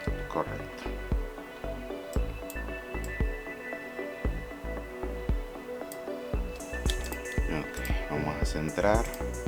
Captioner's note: typing